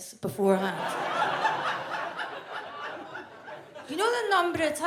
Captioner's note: audience laughs